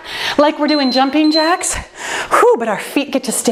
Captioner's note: timer beeps